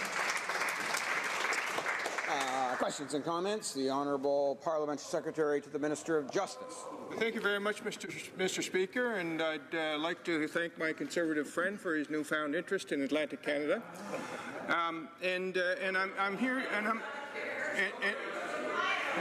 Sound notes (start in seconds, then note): 2.5 applause